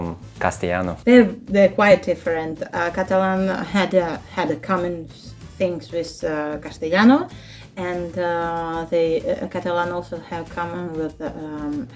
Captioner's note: Spanish; Spanish